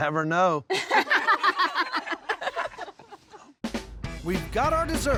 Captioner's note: laughter